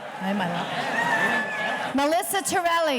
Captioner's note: murmurs